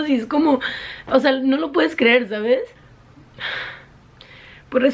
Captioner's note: sigh